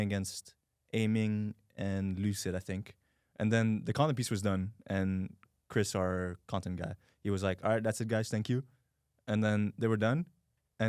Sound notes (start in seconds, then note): none